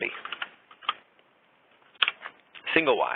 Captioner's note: keyboard clicking